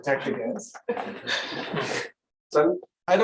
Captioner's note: laughter